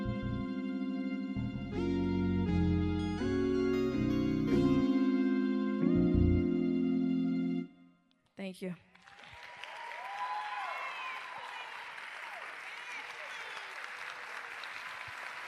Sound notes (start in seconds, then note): 8.9 cheers and applause